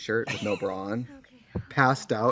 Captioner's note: Katya laughs